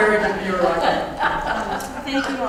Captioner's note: laugh